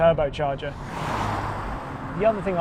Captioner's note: car whooshes